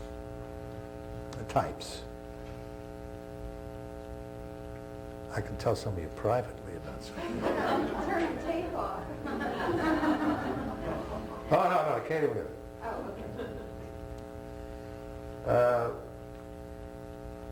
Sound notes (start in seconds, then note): 7.0 laughter; 12.9 laughter